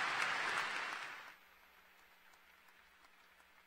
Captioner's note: cheers & Applause